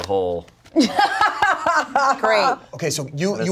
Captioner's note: laughs